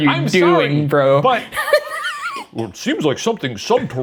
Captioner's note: laughing